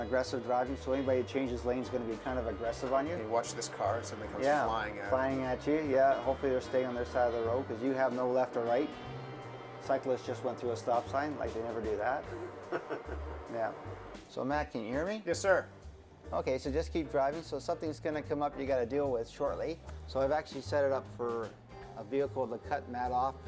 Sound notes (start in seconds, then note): 12.2 laughs